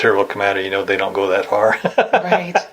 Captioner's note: laughs